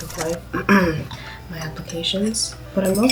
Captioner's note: cough